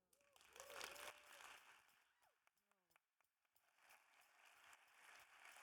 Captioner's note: audience cheering and applauding